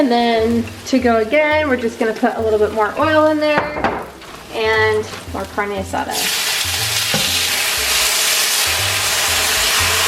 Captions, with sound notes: And then to go again, we're just gonna put a little bit more oil in there. And more carne asada. (pan sizzling)